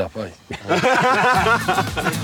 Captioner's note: laughter